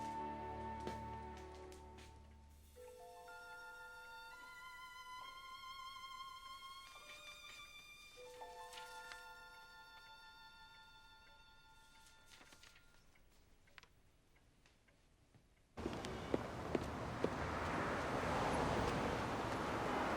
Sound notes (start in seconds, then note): 9.0 paper rustling; 15.8 car engines whirring